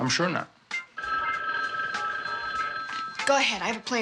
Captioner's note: phone ringing